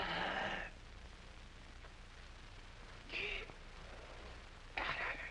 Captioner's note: gasping deeply